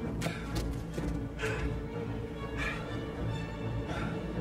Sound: panting

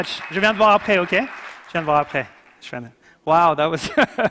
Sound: speaking foreign language

